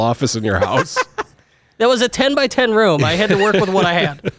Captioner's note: laughs